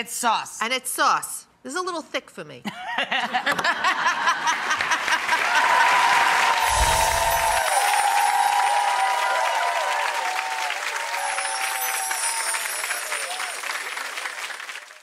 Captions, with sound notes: And it's sauce. It's a little thick for me. (laughing) (audience applause)